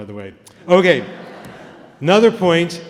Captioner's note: laughter